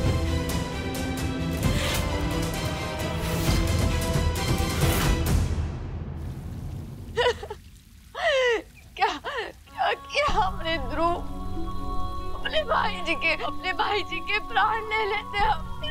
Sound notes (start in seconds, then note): 7.1 Tara sobbing